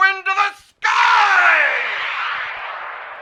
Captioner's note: sounds of soaring jets